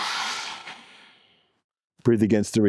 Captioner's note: exhales